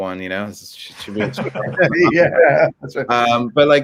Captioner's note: laughing